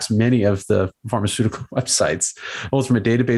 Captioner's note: laughs